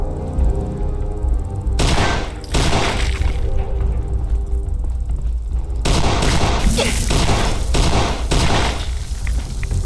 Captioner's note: gun fires